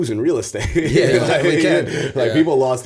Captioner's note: chuckle